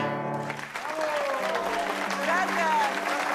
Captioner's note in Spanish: Aplausos